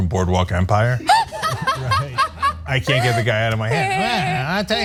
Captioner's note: laugh